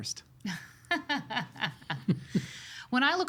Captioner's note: laughing